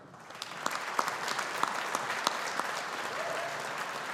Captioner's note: audience applauding